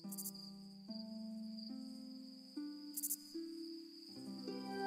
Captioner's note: crickets chirping